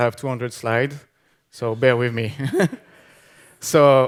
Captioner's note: laughing